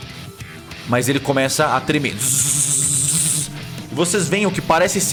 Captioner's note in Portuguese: Choque elétrico